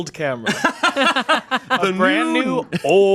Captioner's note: laughing